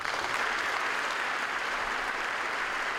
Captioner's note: applause